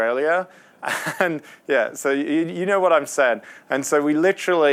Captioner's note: laughs